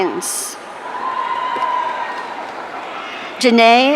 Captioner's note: audience cheering